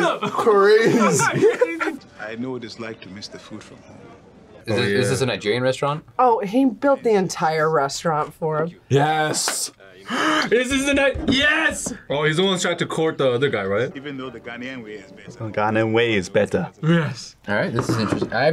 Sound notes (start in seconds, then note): 10.0 gasps